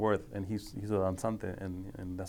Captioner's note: speaking foreign language